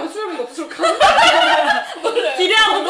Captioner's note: laughs